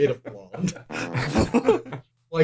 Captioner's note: fart noise